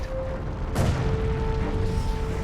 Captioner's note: explosion